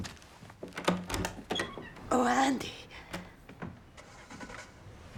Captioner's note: none